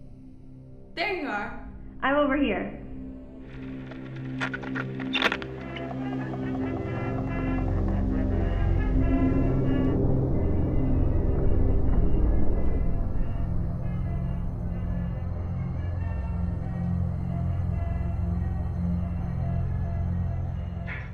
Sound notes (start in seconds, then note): 3.4 static crackling; 5.8 gentle intense music; 5.8 melodic 1920's music; 15.9 gentle intense music; 15.9 melodic 1920's music